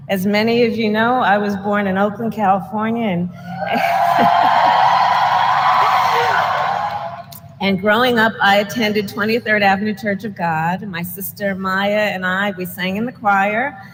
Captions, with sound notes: As many of you know, I was born in Oakland, California. And -- (applause) -- and growing up, I attended 23rd Avenue Church of God. My sister Maya and I, we sang in the choir;